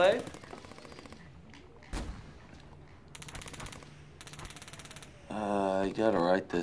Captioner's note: gunfire rattling from video game